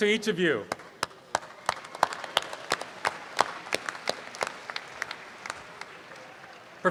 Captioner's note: audience applause